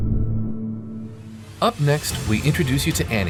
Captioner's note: graphics whooshing